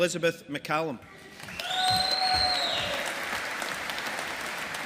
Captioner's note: audience applauding